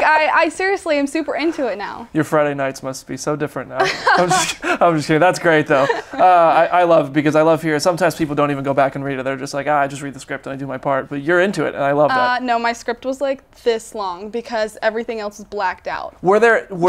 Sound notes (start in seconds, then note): 3.8 laughs